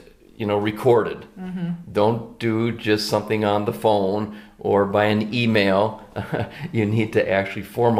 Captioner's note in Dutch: haha